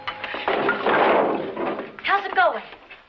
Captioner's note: clattering